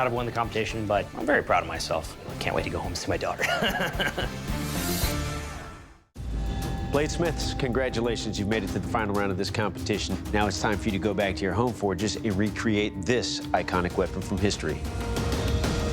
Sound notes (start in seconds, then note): 3.4 laughs; 7.5 dramatic music